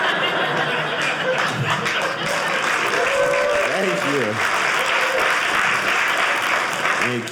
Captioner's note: audience applauding